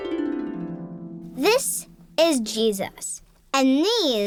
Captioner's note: voiceover